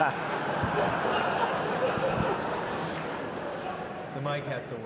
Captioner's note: audience laughs